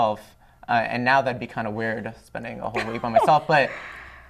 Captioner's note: laughter